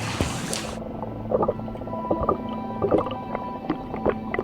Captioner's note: water burbling